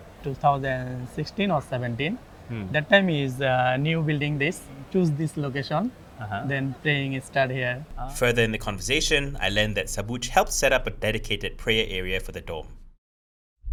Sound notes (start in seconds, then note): 8.2 voiceover